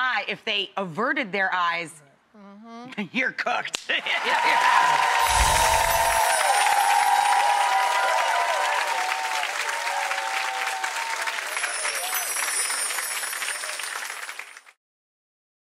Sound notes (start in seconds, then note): 6.3 audience cheers